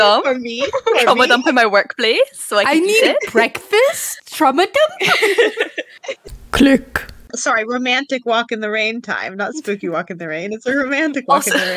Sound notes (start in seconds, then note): 6.3 click